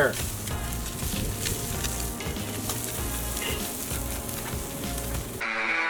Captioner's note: sound of the food sizzling on the grill